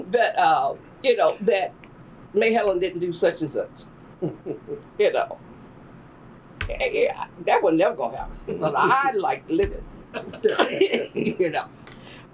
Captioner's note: laughter